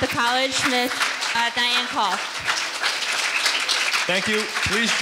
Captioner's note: audience applauding